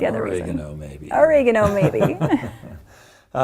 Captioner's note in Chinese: 笑聲